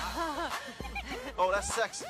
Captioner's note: women chuckling